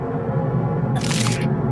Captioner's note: splattering